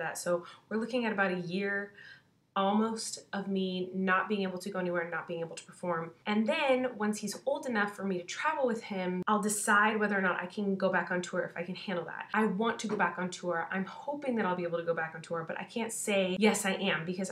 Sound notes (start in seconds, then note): none